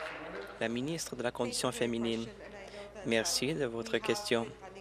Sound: applause

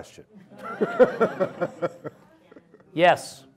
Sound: audience laughing

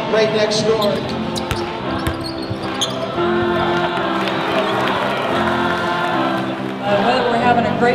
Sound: cheering and singing

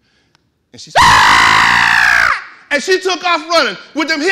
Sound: screaming

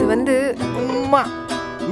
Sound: kisses

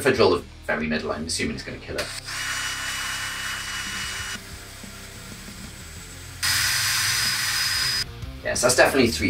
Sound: sound of drilling

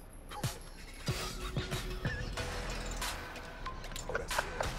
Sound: laughs

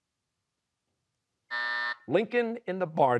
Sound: buzzer

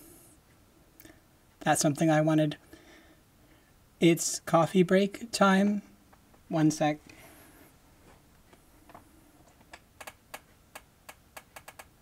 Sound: chair creaking

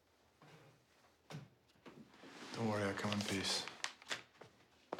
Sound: none

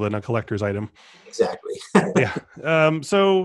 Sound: laughing

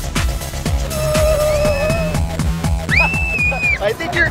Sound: upbeat music; screaming

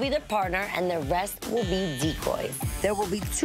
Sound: buzzer

